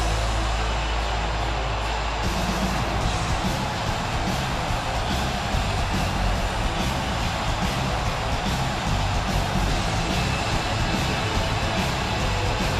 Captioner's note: crowd cheering